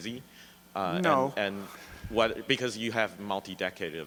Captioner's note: chuckles; voiceover